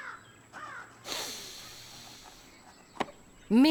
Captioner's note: sniffs